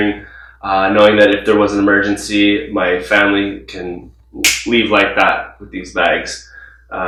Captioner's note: snaps fingers